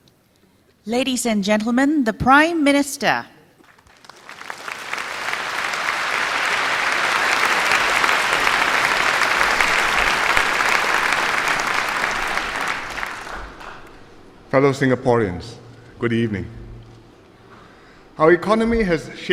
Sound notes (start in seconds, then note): 5.4 applause